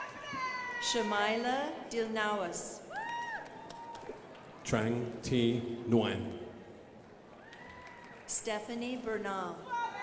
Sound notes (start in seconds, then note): 3.0 crowd applauding; 7.4 crowd applauding